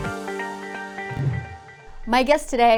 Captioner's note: upbeat instrumental music; screen swooshes